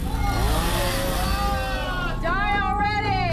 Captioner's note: crowd shouts